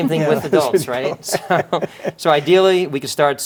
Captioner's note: men chuckling